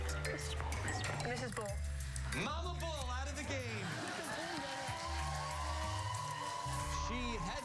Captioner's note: laughter